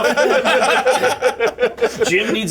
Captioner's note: laughter